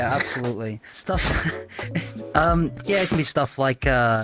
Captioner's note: man laughing